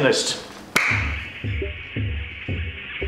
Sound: hands clap

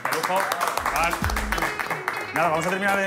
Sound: aplauden

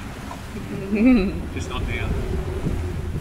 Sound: laughs

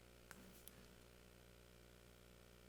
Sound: none

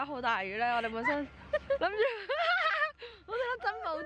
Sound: laugh

